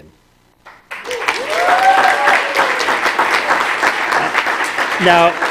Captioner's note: applause